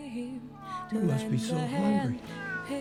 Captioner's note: cat meowing